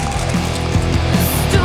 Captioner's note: audience cheering